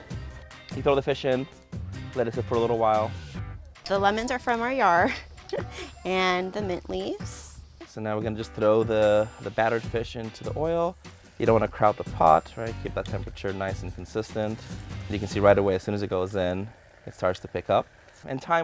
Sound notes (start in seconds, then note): 5.0 chuckles